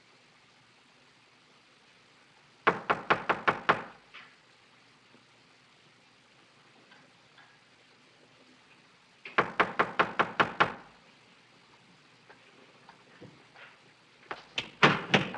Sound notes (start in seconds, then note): 2.6 knock on door; 10.9 knock on door